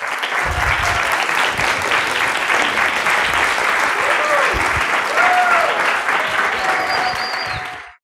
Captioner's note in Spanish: aplausos